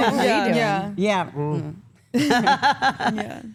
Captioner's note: laughs